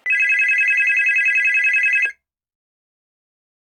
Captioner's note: phone ringing